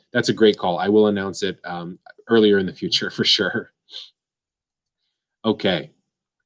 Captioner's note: laughs